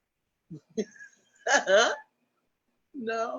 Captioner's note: laughs